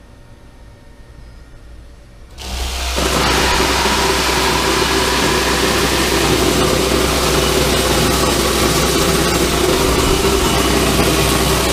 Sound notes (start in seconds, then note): 2.3 machine running